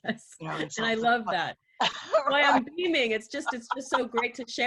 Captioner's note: chuckles